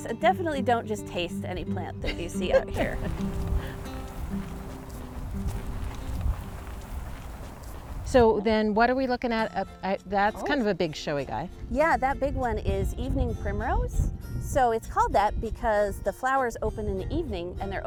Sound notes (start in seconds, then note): 2.0 wind whistling; 2.0 laughs; 2.4 light upbeat music